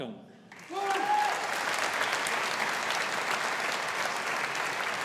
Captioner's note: audience applauding